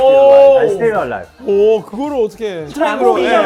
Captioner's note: surprised